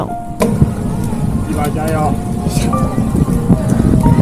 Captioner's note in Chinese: 來自車友的加油聲